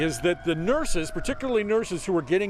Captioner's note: siren